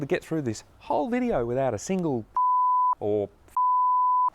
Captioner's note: beep